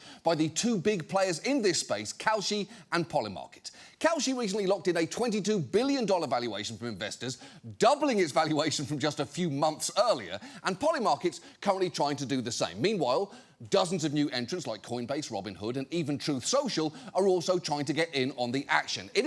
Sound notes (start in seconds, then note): none